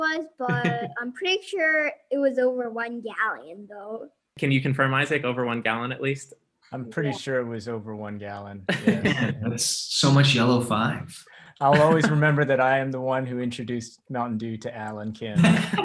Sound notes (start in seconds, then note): 9.0 laughing